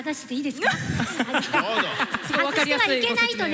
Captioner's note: laughter